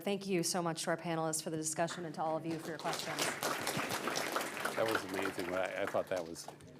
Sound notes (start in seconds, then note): 5.6 applause